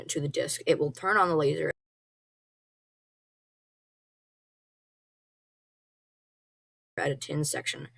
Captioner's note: abrupt silence